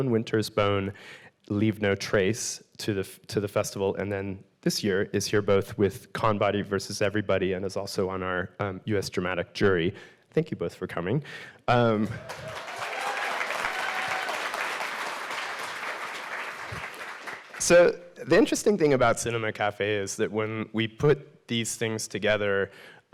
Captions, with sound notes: "Winter's Bone," "Leave No Trace" to the festival. And then this year is here both with "ConBody versus Everybody," and is also on our US Dramatic Jury. Thank you both for coming. (audience applauding) (audience cheering) So the interesting thing about Cinema Café is that when we put these things together,